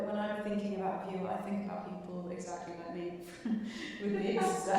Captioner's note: chuckling